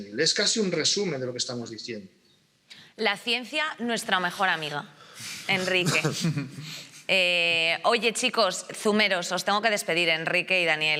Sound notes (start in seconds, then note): 5.6 he laughs